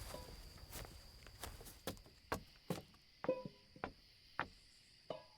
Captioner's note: crickets chirping